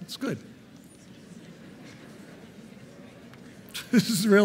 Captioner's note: audience murmuring